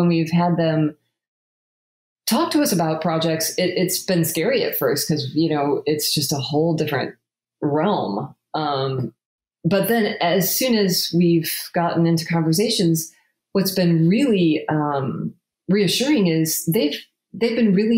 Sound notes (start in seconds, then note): none